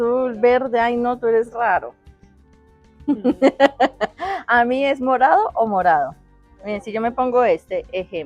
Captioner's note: laughs